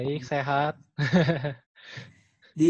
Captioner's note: laugh